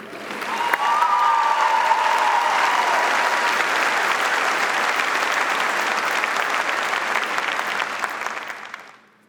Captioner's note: audience applauding